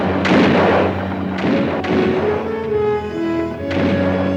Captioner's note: guns fire